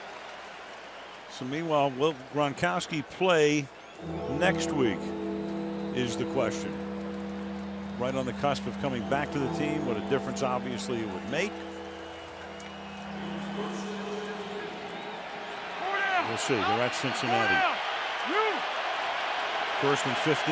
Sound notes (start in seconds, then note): 14.3 pa announcement